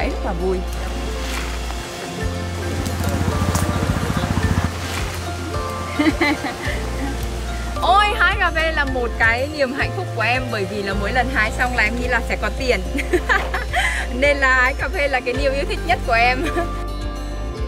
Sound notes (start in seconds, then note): 13.0 laugh